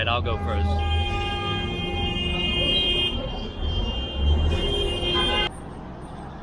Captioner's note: many vehicle horns beeping